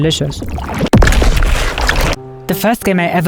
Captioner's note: hand smashing